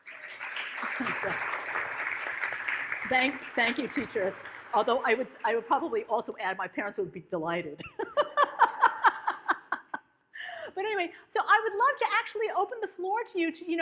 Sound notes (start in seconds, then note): 0.0 audience claps; 7.9 laughs